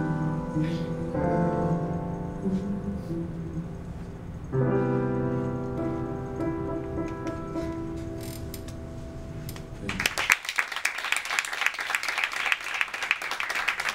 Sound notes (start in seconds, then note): 9.8 audience applauds